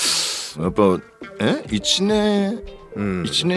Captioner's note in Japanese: 鼻息